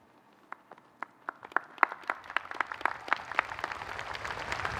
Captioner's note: audience applauding